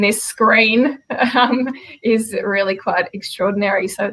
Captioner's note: laughs